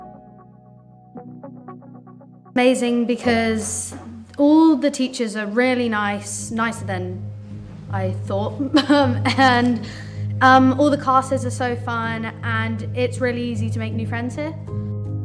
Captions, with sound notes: - Amazing because all the teachers are really nice, nicer than I thought. (chuckles) And all the classes are so fun. And it's really easy to make new friends here.